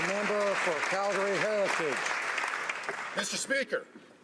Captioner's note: some Applause